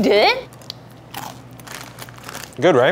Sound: crunching noises

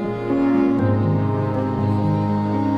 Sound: crowd noise

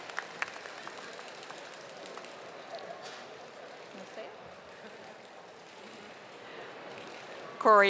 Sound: audience applauding

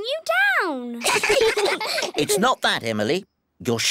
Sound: all giggle

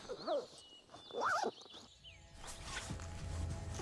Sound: zipper zipping

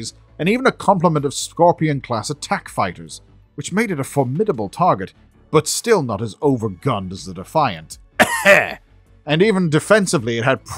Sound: cough

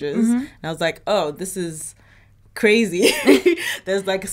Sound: laughs

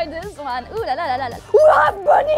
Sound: another gremlin scream

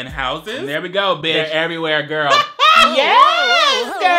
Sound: laughs

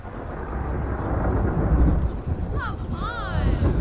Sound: ominous rolling thunder

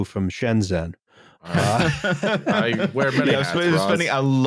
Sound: laughter

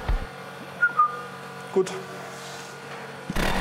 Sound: whistles

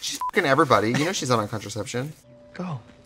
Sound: laughing; beep

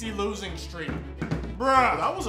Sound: phone bangs on table

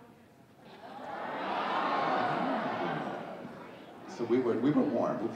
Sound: audience exclaiming

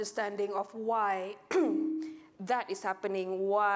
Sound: clears throat

